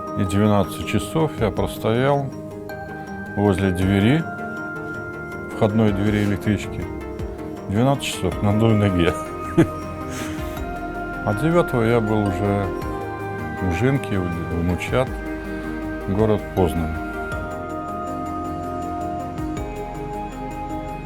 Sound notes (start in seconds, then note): 9.1 laughs